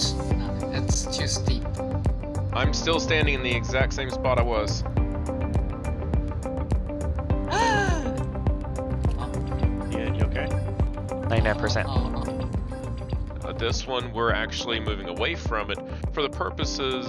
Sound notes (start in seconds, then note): 0.0 on the radio; 7.5 gasps; 8.8 on the radio